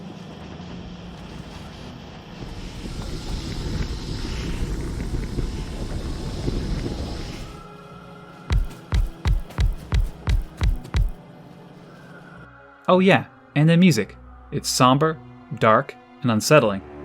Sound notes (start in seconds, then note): 8.5 clunk clunk clunk clunk clunk clunk clunk clunk